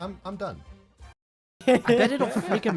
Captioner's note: giggles